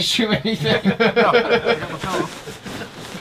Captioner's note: all laughing